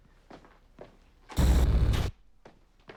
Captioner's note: screech